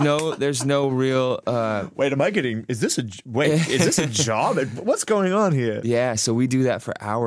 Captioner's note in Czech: smích